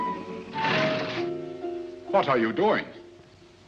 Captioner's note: shade rattles down